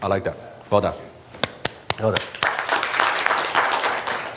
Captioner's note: applause